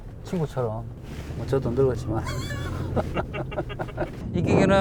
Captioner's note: laughs